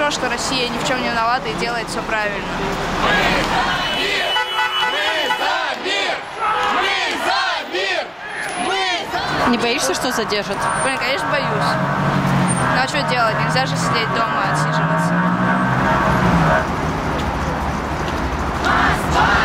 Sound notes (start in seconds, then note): 3.2 chanting; 19.2 chanting